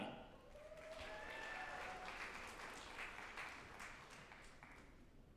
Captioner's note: group applauding and cheering